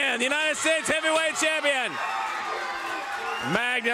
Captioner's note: crowd cheering